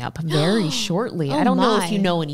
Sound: shocks

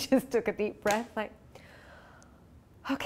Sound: inhales

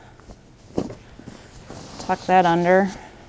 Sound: sheets rustling

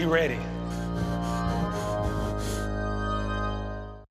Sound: person huffs

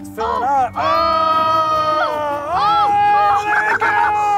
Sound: yelling

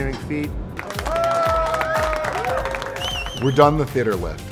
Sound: workers applauding

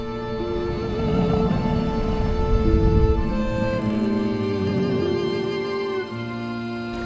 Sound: grunting

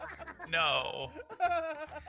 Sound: laugh

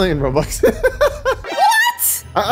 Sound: laughs

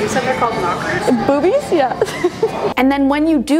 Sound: laughs

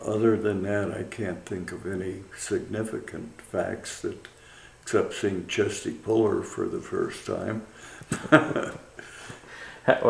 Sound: laughs

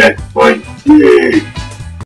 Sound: resigned groan

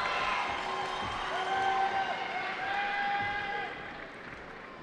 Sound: cheering

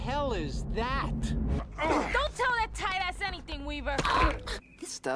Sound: grunts

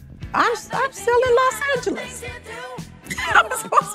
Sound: laughing

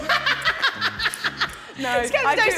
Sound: woman 2 laughing

